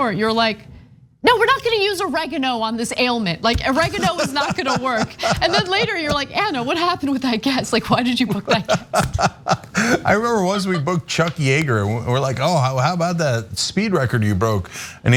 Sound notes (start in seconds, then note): 3.6 laugh